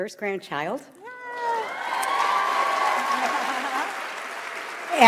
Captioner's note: audience applauds